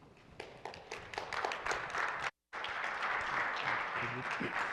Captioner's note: applause